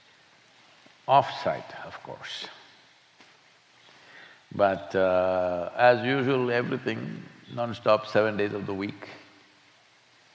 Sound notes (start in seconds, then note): none